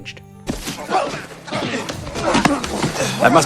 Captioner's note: sound of a small group of people fighting